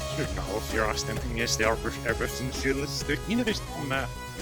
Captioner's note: backwards speaking